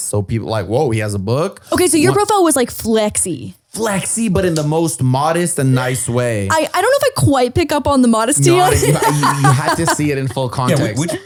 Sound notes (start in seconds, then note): 8.4 laughs